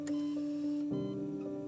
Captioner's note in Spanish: Bip en el monitor